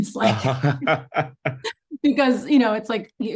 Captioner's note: laughs